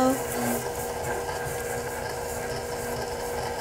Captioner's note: blending